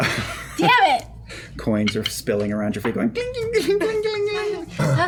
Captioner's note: clinking